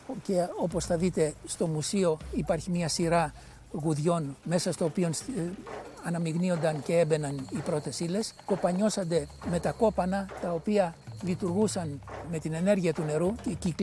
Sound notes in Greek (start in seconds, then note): 4.6 ήχος γουδιών